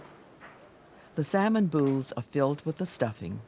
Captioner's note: voiceover